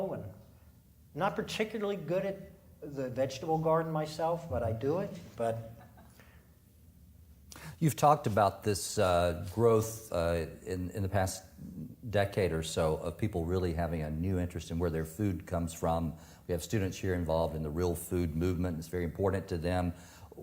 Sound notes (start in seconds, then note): 6.2 audience laughing